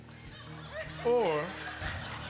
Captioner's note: laughter